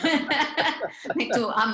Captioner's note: laughter